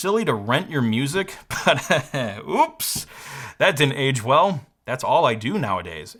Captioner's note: laughs